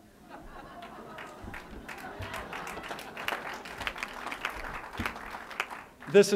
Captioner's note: laughter